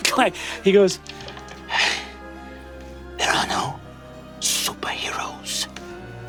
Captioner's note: huffs